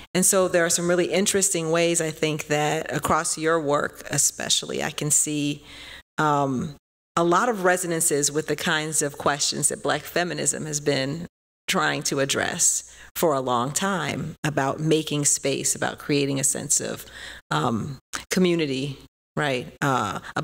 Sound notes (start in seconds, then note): none